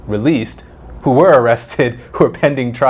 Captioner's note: laughs